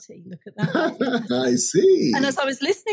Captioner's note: chuckling